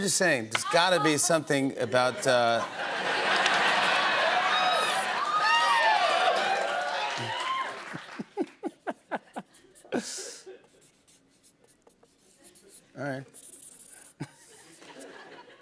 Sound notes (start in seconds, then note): 1.8 laughter; 4.8 cheers and applause; 7.8 laughing